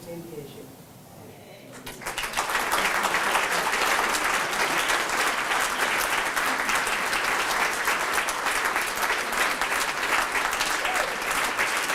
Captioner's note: applause